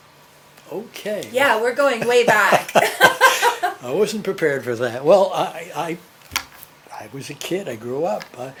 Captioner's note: laughter